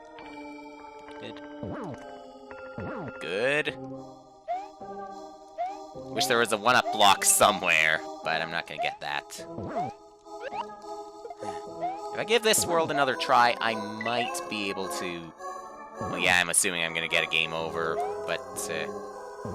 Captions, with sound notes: Good. Good... I wish there was a 1-Up block somewhere, but I'm not gonna get that. (*sigh*) If I give this world another try, I might be able to... ...well, yeah. I'm assuming I'm gonna get a Game Over, but...